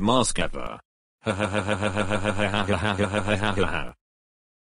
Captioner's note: Evil Laugh